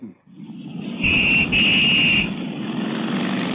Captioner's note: whistle blowing; engines revving